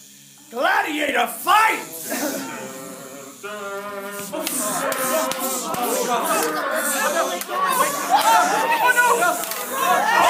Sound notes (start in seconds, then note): 2.7 theme, hummed